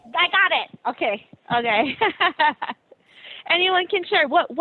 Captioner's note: laughing